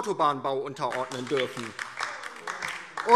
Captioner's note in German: Beifall DIE LINKE